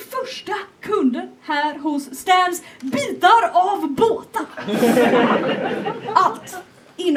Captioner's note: laughter